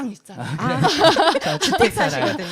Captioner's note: 웃음